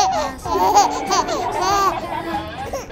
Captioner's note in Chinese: 大笑